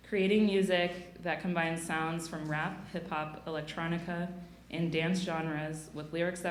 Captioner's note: none